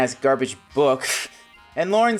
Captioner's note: scoffs